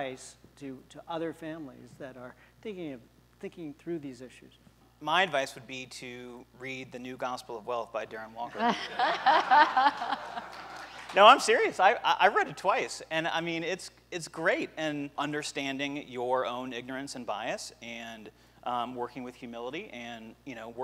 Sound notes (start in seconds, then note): 8.5 laughter